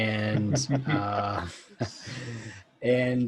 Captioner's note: laughing